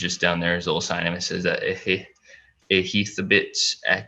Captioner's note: foreign language